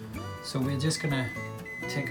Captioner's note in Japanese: オーブンの音